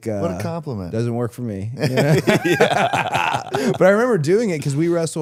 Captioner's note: laughs